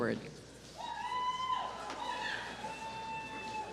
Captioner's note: cheers